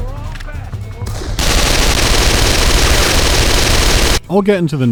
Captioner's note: rapid gunfire